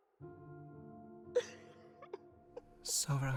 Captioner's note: sobbing continues